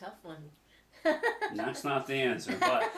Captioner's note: laughs